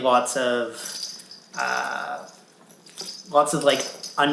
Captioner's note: toy jangling